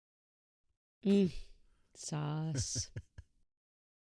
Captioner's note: chuckles